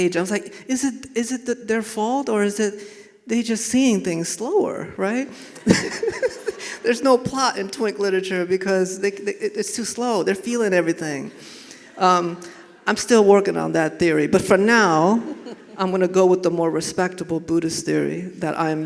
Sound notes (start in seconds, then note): 5.6 laughing